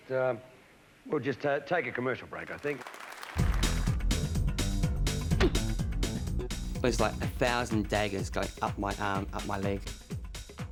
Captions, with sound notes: we'll just take a commercial break, I think. (audience claps) (upbeat music) (leg thumps) - It was like a thousand daggers going up my arm, up my leg.